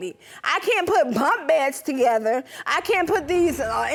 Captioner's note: none